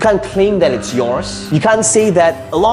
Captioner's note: buzzer blaring